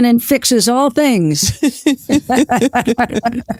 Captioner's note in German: Lachend